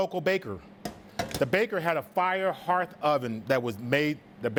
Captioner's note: pot clangs